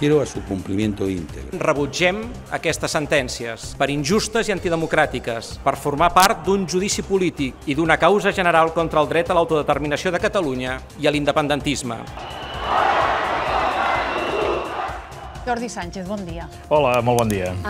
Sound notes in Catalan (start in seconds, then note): 13.8 cridòria